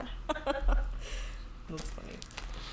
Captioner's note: laughs